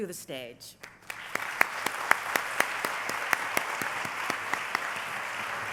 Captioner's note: applause